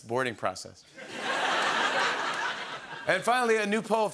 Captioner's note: laughter